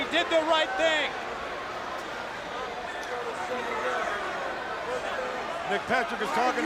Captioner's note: crowd chatter